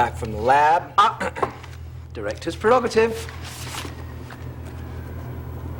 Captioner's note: clears throat